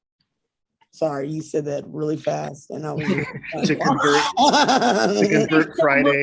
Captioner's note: members laughing